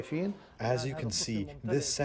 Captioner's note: through translator